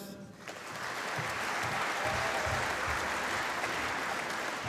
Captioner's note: applause